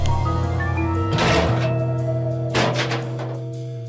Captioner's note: trash can rattling